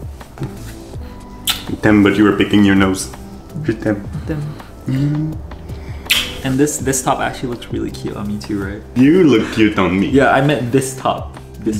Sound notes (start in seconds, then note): 0.0 speaking foreign language; 1.3 kissing sound; 2.2 speaking foreign language; 6.0 kissing sound